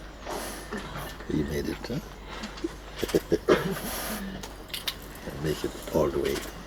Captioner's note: laughter